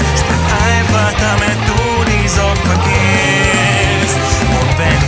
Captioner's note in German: Oohoohooh